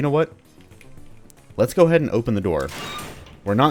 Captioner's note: gate opens squeakily